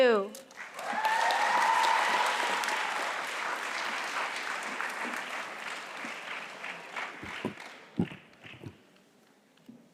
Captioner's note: applause